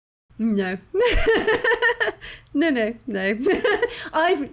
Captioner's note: laughing